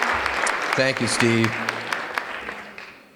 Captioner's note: applause